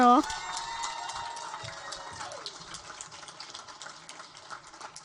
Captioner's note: audience cheer and applaud